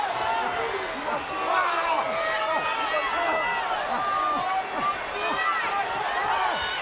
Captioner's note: audience cheering and chattering